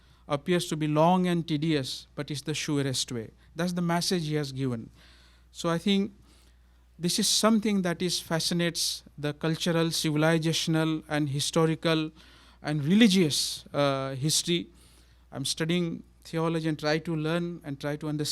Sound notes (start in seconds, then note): none